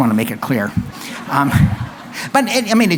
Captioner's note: laughter